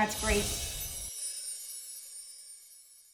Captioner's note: whoosh; chimes